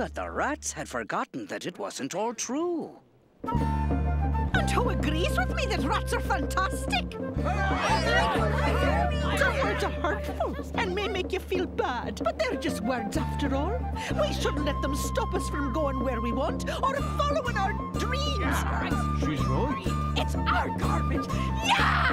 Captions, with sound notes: that the rats had forgotten that it wasn't all true. And who agrees with me that rats are fantastic? ( rats cheering ) Some words are hurtful and may make you feel bad but they're just words after all. We shouldn't let them stop us from going where we want or following our dreams. She's right. It's our garbage, yeah!